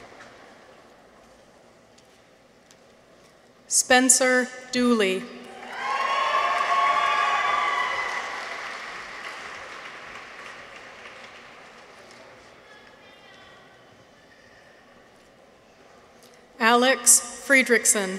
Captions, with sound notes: Spencer Dooley. -(people cheer) -(audience applauds) Alex Friedrichsen.